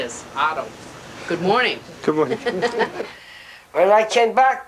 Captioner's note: laugh